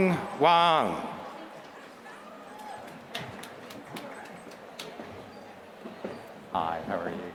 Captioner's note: applause